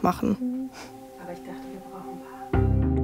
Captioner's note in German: Leises Gespräch, ruhige Musik